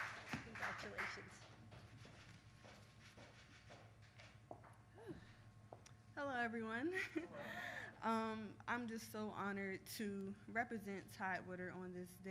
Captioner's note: applause